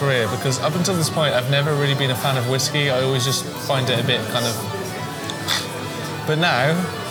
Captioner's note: weird gag/cough noise